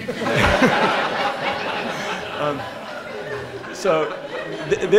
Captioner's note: laughter